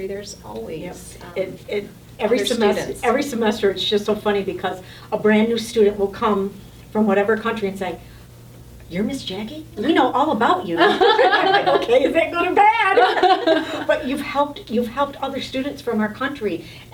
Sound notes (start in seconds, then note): 10.8 all laughing